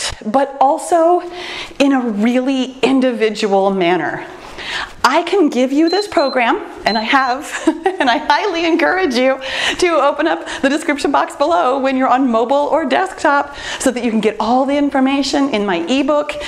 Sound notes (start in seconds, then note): 5.8 timer beeps; 7.4 laughs